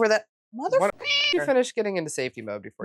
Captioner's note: meow